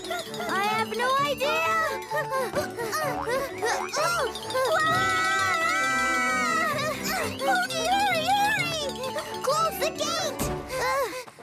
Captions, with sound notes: I have no idea. [both screaming] Hogi, hurry, hurry! -Close the gate. -[Pinkfong panting]